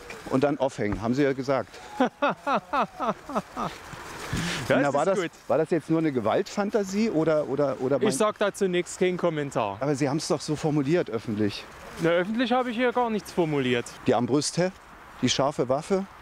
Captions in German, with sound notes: und dann aufhängen, haben Sie ja gesagt." [Lacht.] "War das jetzt nur eine Gewaltfantasie, oder...?" "Ich sage dazu nichts. Kein Kommentar." "Aber Sie haben es doch so formuliert." "Öffentlich." "Öffentlich habe ich hier gar nichts formuliert." "Die Armbrüste, die scharfe Waffe.